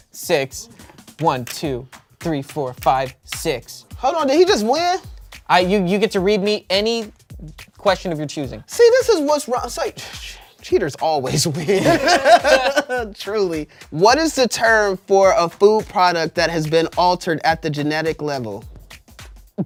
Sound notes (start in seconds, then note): 11.7 everyone laughs